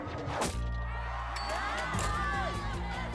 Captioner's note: cheers